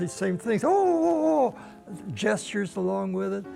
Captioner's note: panicking sounds